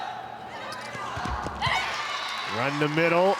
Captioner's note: ball thumping; audience cheering